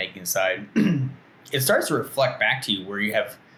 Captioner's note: clears throat